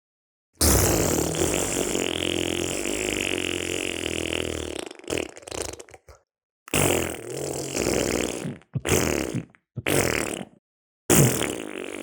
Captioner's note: flatulence